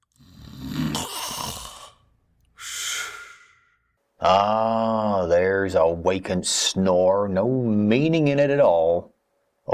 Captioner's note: Strange Gentleman snores